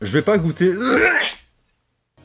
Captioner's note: retches